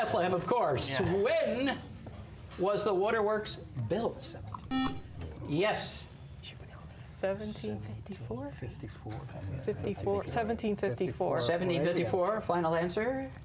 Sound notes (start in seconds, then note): 4.7 buzzer